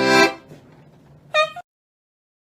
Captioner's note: honk